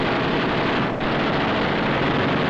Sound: gunfire

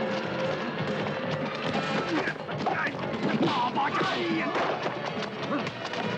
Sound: dramatic music; men grunting

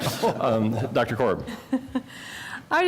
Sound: laughter

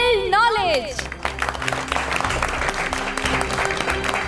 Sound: applause

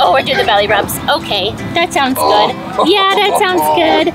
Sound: laughing

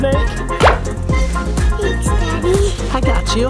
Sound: pop sound

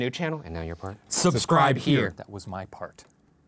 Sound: in Unison

